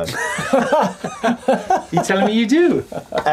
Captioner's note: laughing